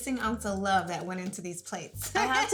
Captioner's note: laughing